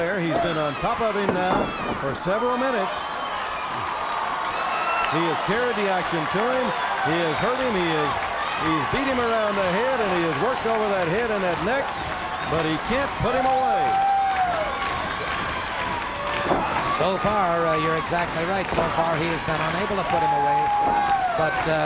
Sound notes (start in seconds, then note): 4.1 crowd cheers; 14.6 crowd stomping rhythmically